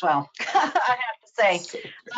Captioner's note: laughing